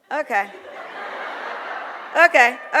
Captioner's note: audience laughs